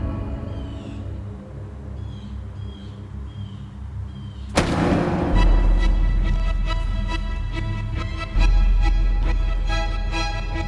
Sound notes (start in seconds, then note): 0.7 bird cawing; 4.5 dramatic orchestral music